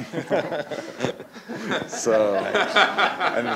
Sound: laughter

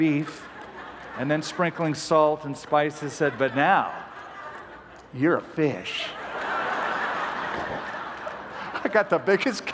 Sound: laughter

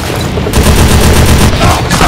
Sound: chaotic Dakka Noises

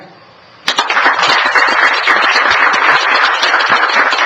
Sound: applause

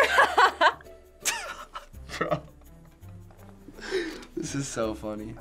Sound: laughs; laughs

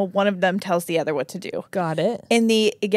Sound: none

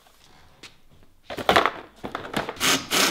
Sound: clatters; battery-powered drill

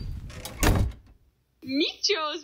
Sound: Michiganto slams door

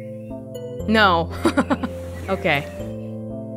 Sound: chuckles

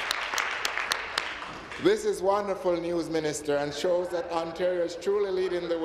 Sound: applause

